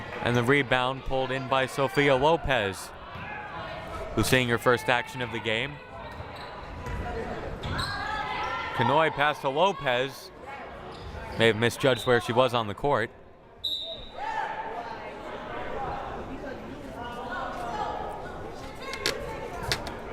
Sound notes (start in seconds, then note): 13.6 whistle blaring; 16.0 crowd murmuring